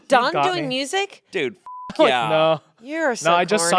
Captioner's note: beep